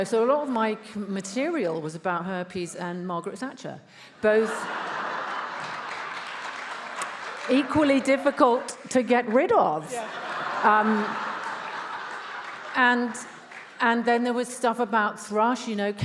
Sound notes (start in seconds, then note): 4.2 attendees laughs; 4.7 attendees applauding; 9.8 attendees laughs